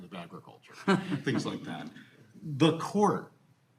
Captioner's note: all laughing